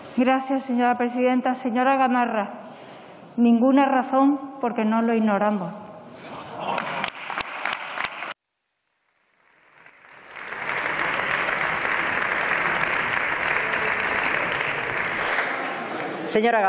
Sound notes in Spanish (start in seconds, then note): 9.6 Aplausos.-Rumores